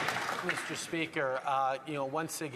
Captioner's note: some Applause